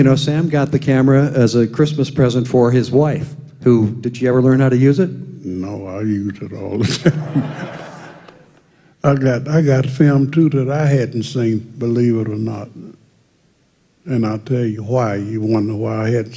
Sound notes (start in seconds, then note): 6.8 laughter